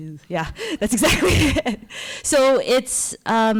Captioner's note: giggles